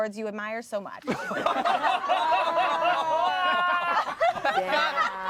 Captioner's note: everyone laughs